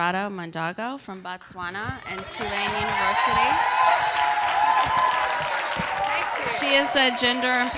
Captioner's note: cheers and Applause